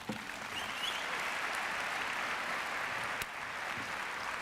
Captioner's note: audience applauding